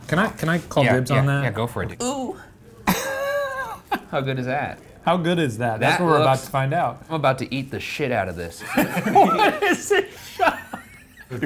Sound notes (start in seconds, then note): 2.3 groans; 2.9 laughs; 8.7 laughing